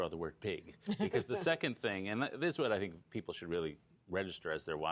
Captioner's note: laughter